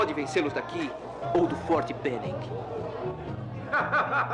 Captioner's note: man Laughing